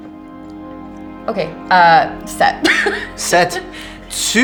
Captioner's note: she laughs